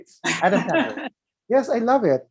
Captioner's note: laughs